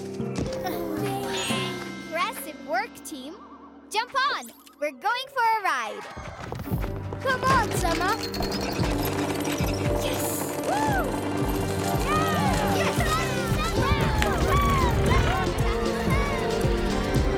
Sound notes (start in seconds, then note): 11.9 cheering; 14.2 upbeat music